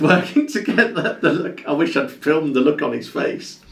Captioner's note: laughs